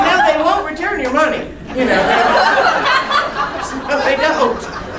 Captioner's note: laughing